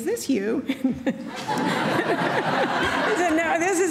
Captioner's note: laughing